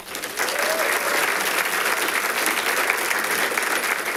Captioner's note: audience applauding